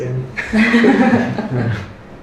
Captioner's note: laughter